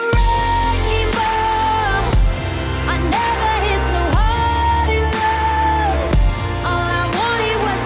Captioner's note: loud Horn